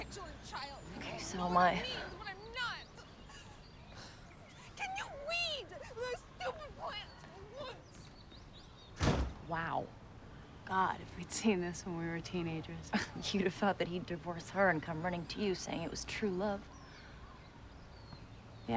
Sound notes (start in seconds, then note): 8.9 door Slam